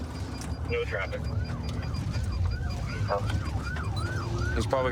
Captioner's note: sirens wailing